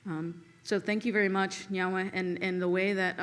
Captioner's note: speaks Seneca